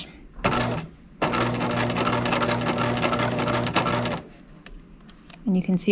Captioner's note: sewing machine whirring